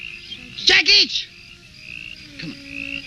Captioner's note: speaking in foreign language; shouting in foreign language